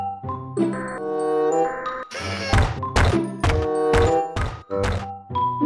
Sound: whirring, Stomping

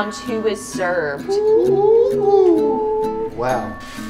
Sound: guys whooping

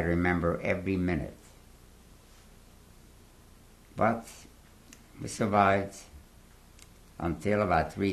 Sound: pauses for 3 seconds

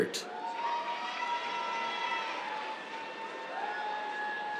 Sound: cheers, applause

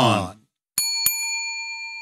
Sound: bell dings

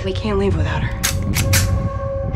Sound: sound of gun being loaded

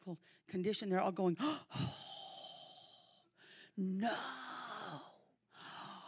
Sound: gasps

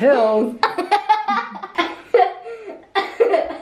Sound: laughing

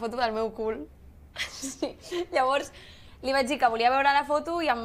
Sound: laughs

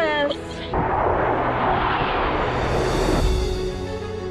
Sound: jet flying over

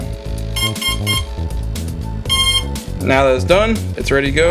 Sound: beeping

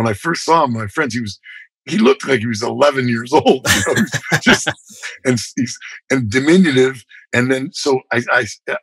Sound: laughter

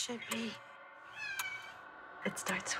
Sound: meows

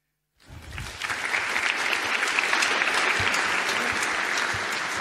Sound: audience clapping

